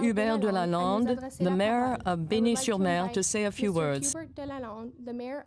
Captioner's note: speaking French